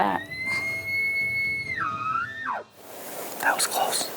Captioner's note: bull bugling